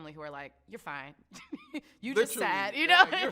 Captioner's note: laughs